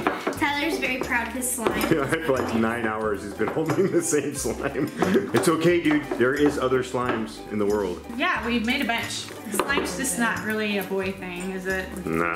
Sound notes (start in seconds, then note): 0.0 laughs; 4.7 laughs